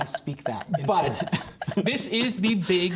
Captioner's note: laughter